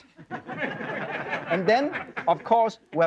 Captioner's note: crowd laughing